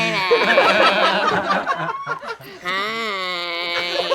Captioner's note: all laugh